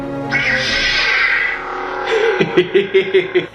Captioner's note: electronic buzzing; laughing